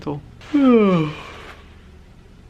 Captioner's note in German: gähnen